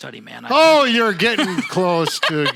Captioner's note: laughing